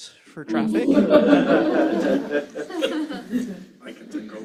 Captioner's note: laughter